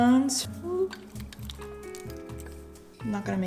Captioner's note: none